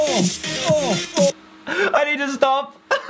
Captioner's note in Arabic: يضحك